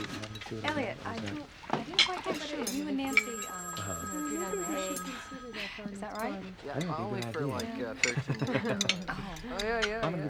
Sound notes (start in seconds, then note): 1.8 chattering